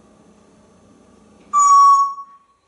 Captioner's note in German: whistling